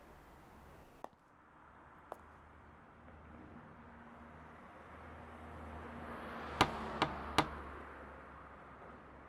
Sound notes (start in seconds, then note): 1.6 traffic whooshing; 6.6 door knocking